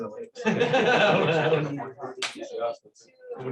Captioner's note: laughter